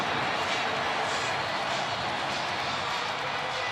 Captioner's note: cheering